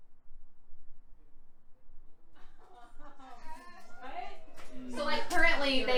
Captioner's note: laughter